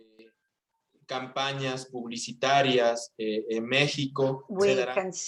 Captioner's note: non-english speech